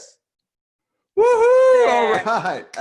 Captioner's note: shouting happily